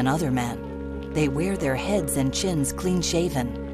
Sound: none

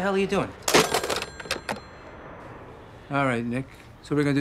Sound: phone dings

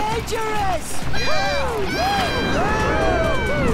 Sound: shouting

